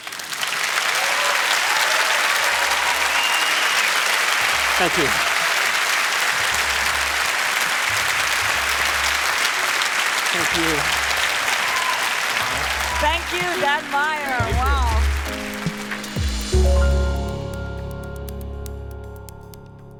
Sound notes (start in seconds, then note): 0.3 applause; 6.2 applause; 10.7 cheering